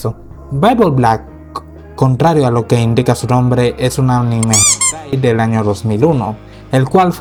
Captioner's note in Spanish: chirridos